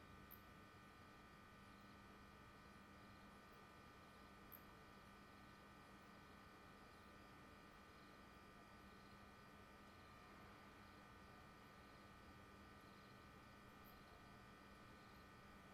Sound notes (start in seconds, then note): 1.4 neon light hums loudly